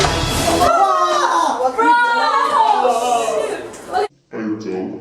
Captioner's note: explosion